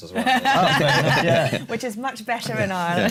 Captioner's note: laughter